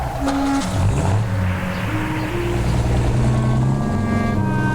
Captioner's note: car door thudding; car engine revving; dramatic music